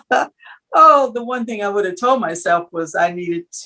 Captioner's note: laugh